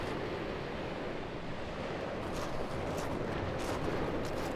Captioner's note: waves crashing